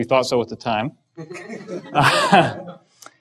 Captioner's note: laughs